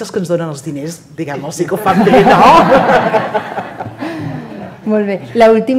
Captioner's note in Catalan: riures